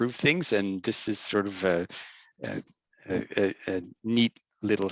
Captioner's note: stammering